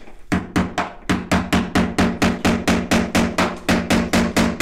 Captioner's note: hammer pounding